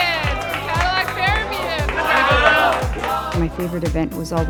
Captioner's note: clapping loudly